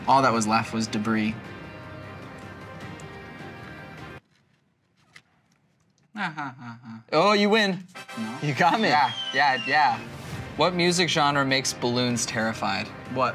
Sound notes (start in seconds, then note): 5.5 mockingly